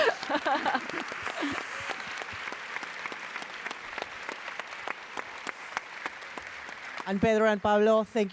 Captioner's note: applause